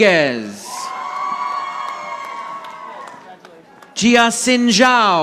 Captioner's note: audience applauding